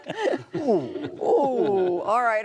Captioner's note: laughter